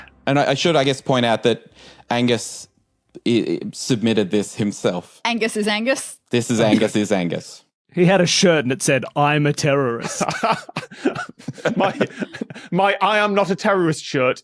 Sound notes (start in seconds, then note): 10.0 chuckles; 10.0 laughs, cracks up